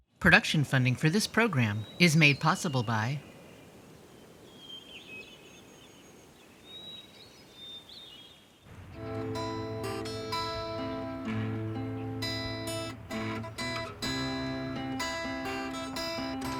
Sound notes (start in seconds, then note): 4.6 birds chirping; 8.8 soft guitar music